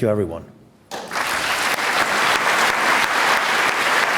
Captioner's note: applause